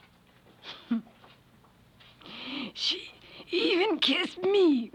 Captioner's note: laugh